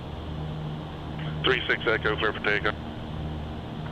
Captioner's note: radio